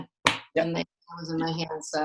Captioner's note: claps once